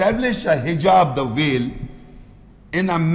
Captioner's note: Arabic